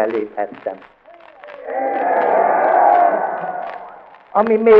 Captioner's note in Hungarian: éljenzés